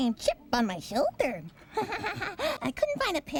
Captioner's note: chuckles